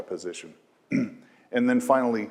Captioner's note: cough